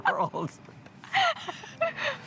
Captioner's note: laughing